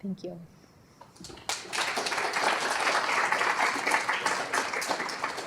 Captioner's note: applause